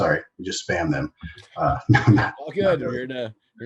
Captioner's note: laughs